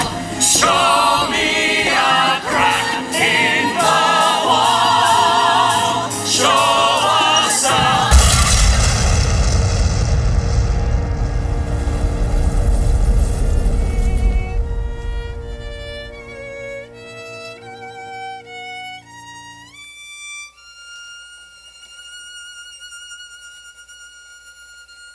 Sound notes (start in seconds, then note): 7.6 offstage, an EXPLOSION